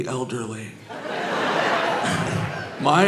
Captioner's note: audience laughing